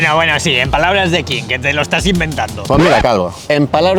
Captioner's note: sarcasm